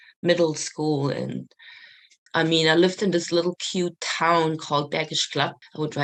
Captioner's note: German